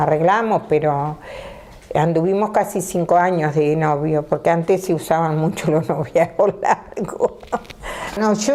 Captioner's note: she laughs